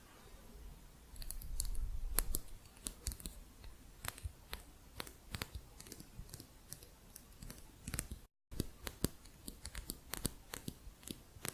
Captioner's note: light tapping on plastic